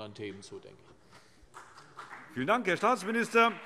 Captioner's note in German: Vereinzelter Beifall CDU und BÜNDNIS 90/DIE GRÜNEN